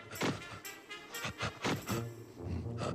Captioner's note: grunting